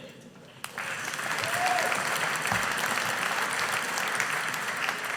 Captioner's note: audience applauding